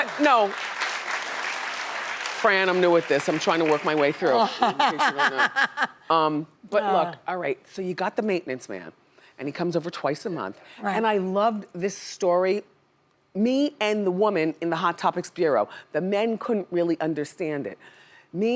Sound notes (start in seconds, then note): 0.0 audience applauding; 4.3 laughs